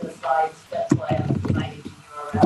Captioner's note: audio warps